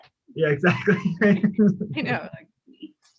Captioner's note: laughs